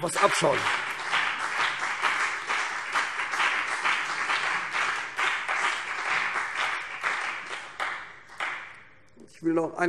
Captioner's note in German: Beifall CDU und BÜNDNIS 90/DIE GRÜNEN